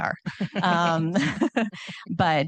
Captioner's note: participants laughing